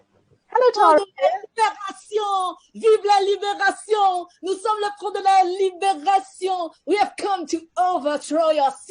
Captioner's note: shouts